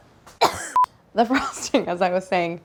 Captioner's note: coughs; camera beeps